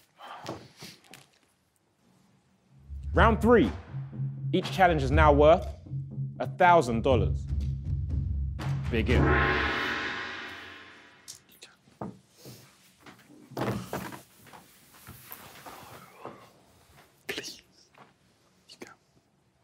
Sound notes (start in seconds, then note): 0.2 sighing; 9.0 gong banging; 13.5 hands smack table